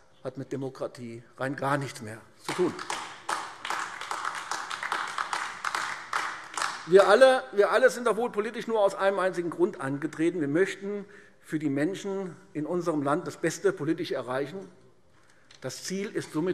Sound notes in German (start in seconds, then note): 2.4 Beifall AfD